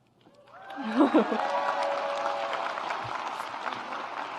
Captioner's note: audience applauds